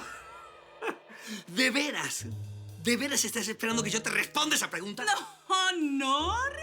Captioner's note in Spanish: Risas